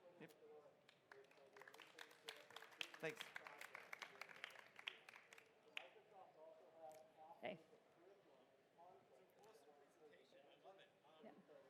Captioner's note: applause